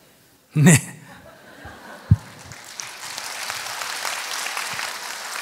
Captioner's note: audience applause